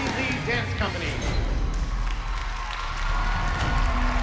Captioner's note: audience cheers and applauds